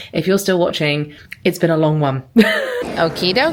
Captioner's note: laughing